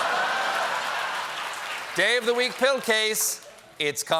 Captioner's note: applause